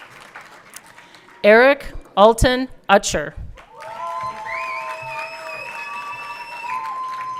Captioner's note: everyone cheering